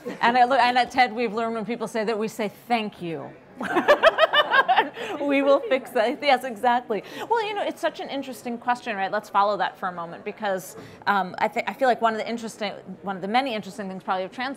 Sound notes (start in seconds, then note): 3.6 laughter